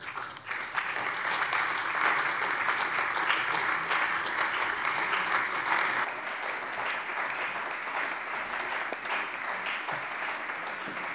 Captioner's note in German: Anhaltender Beifall bei der CDU und dem BÜNDNIS 90/DIE GRÜNEN